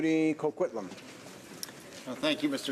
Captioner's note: speaking in french